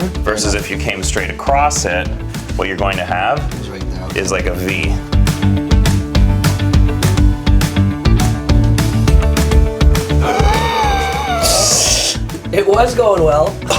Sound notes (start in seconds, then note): 5.0 uplifting music; 10.2 gasps